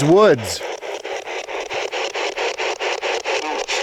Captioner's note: static ticking